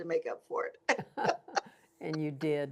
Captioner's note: laughter